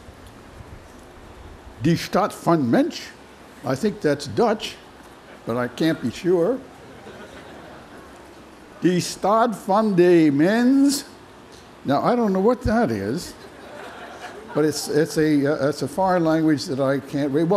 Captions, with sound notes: [NON-ENGLISH]. I think that's Dutch, but I can't be sure. [NON-ENGLISH]. Now, I don't know what that is. [LAUGHTER] But it's a foreign language that I can't read.